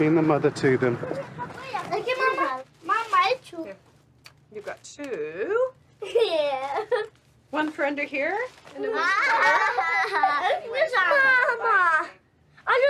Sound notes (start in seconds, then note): 6.0 laughs; 8.7 kids laughing